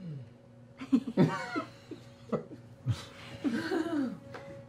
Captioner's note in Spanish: risas